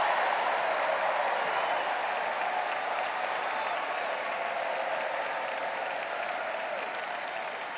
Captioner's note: cheers and applause